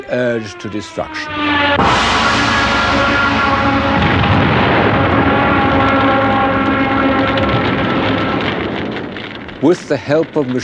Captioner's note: Stuka sirens, bomb explosions